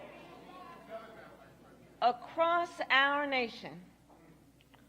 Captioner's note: boos